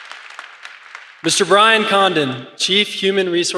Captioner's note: applause